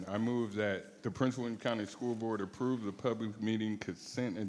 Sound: none

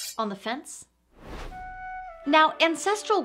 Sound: air whooshes; metallic sound; soft flute music

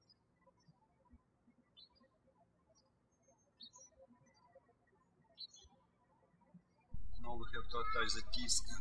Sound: birds chirping

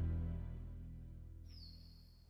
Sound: bird chirps

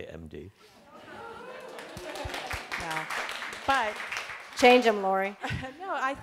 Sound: cheering and applause from audience

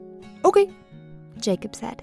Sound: voiceover

